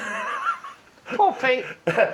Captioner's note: laughing